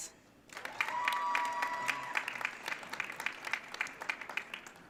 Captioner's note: audience cheering